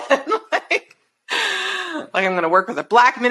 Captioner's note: chuckles